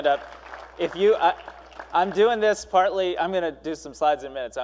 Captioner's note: applause